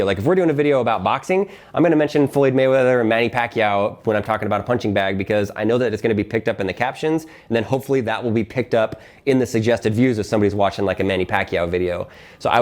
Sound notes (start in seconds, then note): none